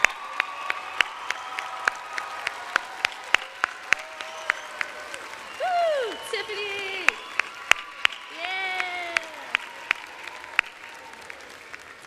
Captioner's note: applause and cheers